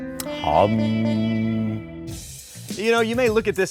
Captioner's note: hums